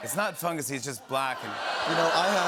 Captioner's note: audience groans